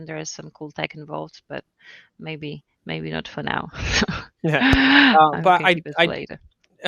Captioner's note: laughs